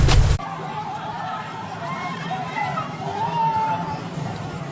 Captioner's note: people shouting